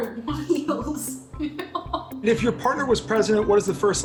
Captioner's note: laughs